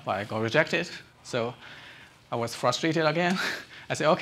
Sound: chuckles

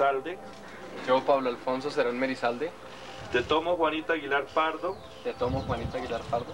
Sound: people speaking in foreign language

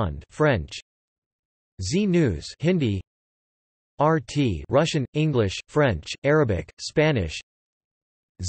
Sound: Hindi

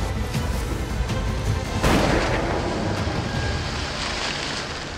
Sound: bang

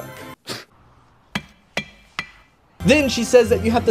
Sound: tap tap tap

